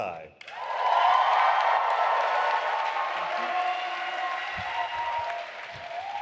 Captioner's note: audience applauding and cheering